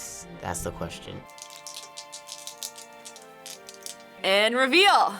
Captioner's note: crystals clicking